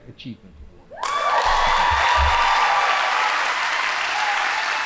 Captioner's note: audience applauding